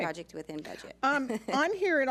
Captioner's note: laughs